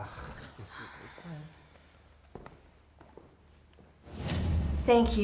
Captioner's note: group mutters and sighs; dramatic music